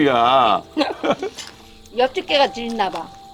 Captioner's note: both laughing